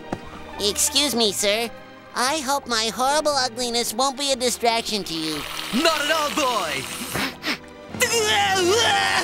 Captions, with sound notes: Excuse me, sir, I hope my horrible ugliness won't be a distraction to you. Not at all, boy. [sniffs, groans in disgust]